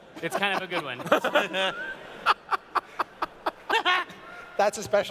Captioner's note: laughter